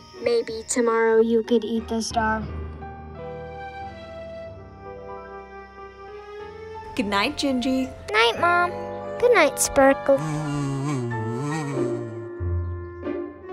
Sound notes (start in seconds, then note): 9.9 buzzing